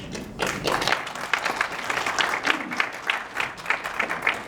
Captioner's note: audience clapping